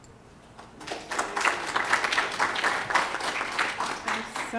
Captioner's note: applause